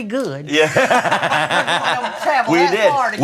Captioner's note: everybody laughing